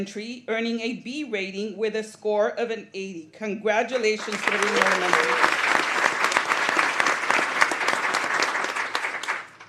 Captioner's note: applause